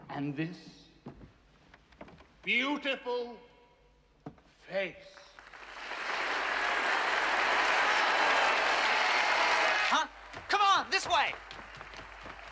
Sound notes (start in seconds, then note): 5.2 Аплодисменты, одобрительные возгласы